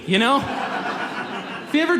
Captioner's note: audience laughs